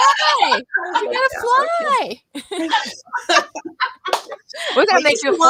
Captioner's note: laughter